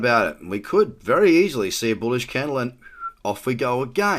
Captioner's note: whistles